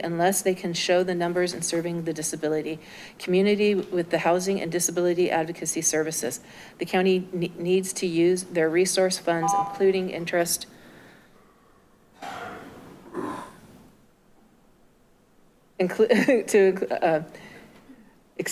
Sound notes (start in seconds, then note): 12.5 beeping sound